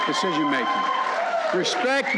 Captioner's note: applause